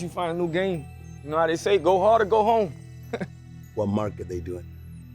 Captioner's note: chuckles